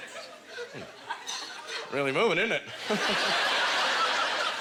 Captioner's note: audience laughter